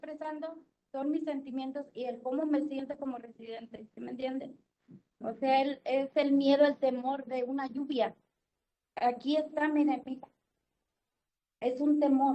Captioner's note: speaking Spanish